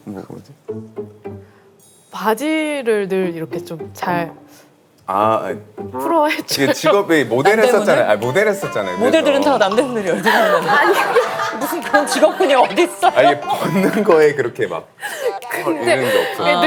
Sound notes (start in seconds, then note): 11.9 laughs